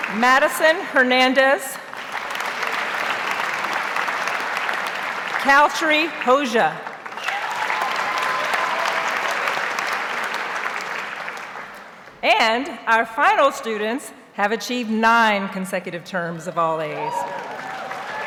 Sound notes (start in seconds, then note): 0.0 audience applauds; 2.3 audience applauds; 6.8 audience cheers and applauds